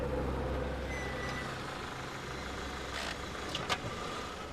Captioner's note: tires screeching